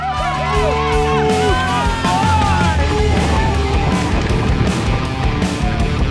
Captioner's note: spectators cheering; upbeat music